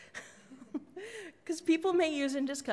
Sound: laughs

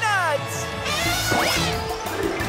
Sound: elephant horn

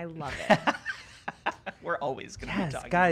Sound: laughing

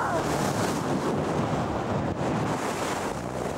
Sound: strong winds

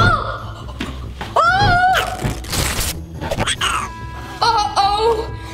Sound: paper shredding

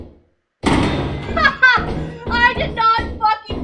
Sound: heavy footsteps on metal; heavy object being put down; laughing

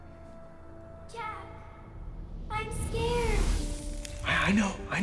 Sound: echoing

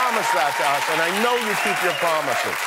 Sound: cheers and applause

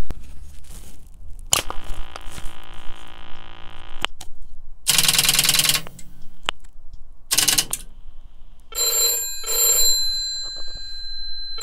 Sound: dialling noises

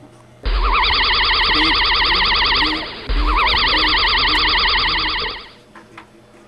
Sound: electronic Whirring

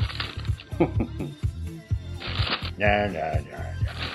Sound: low chuckle

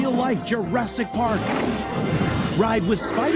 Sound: dinosaur growls

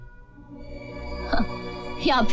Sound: chuckles

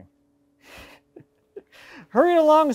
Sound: chuckles

